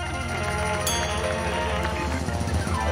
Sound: dings

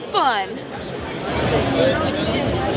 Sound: crowd chatters

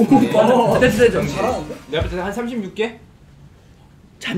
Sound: hurriedly

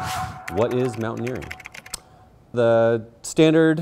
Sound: air whooshing; keyboard clicking

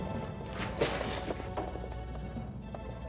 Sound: hisses yet again

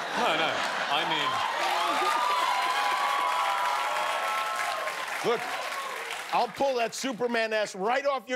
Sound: laughter; cheers and applause

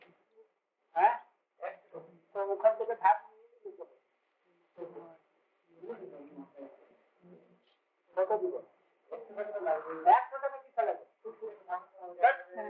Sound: Hindi

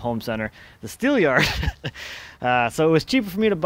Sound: chuckles

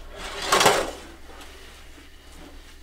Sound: silverware clangs

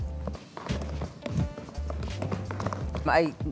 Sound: tap dancing sounds

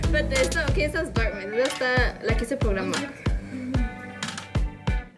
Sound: speaking Spanish

